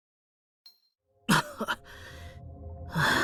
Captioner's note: cough